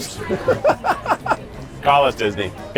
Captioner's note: laughs